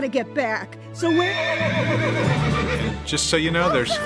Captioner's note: whinnying